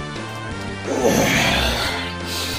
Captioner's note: sigh